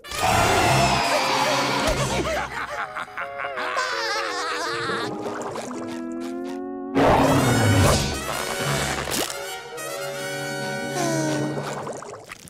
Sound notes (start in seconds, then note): 3.7 laughing